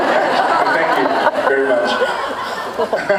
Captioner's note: laughs